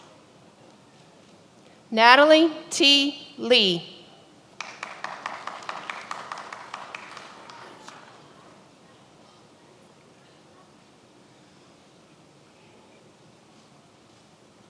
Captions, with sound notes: Natalie T. Lee. (many applauding)